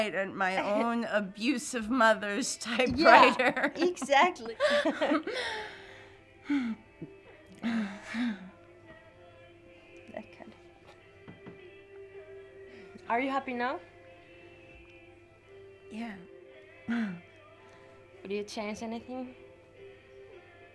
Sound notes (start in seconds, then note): 6.8 upbeat instrumental music; 10.2 murmuring